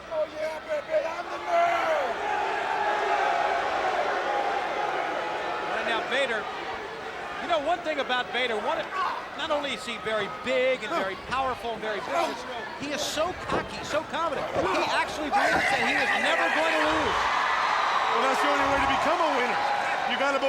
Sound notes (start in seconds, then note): 3.4 crowd cheering